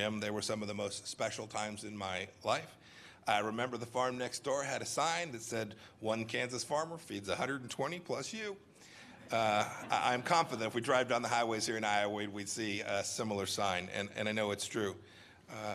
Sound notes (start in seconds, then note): 9.1 laughter